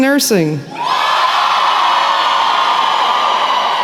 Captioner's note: cheering